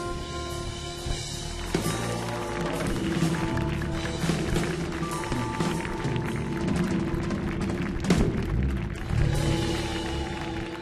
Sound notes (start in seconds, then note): 1.0 audience applauding; 1.6 audience cheering